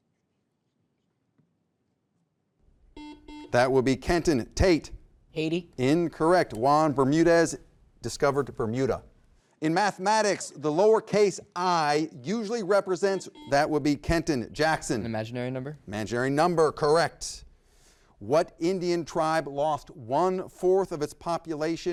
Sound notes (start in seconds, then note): 2.9 buzzer beeps; 13.1 buzzer beeps